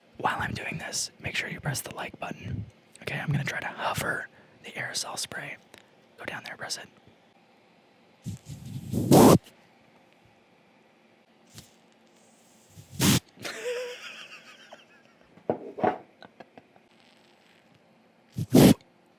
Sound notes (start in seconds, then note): 13.4 laughing